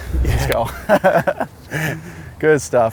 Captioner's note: laughs